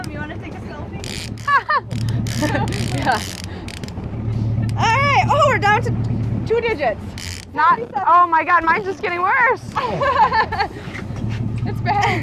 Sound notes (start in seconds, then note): 2.9 laughs